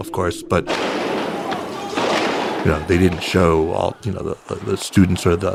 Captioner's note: shooting and shouting